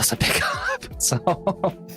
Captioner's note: laughs